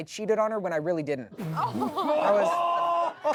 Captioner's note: everyone laughs